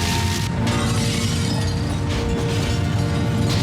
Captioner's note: splintering glass